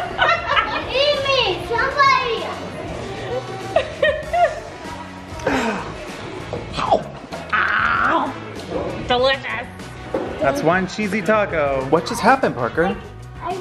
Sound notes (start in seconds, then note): 0.0 laughs; 2.9 laughs; 7.3 eating noise